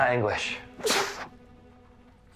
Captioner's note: stephen sneezes